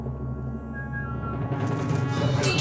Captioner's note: whistles